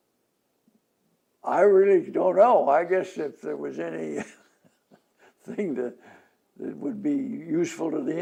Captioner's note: laughs